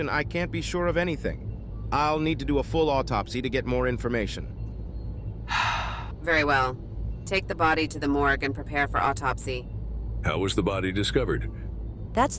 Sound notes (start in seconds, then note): 5.5 sighs